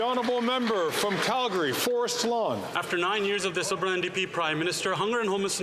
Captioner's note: some Applause